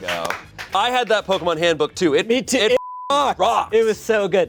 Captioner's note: beep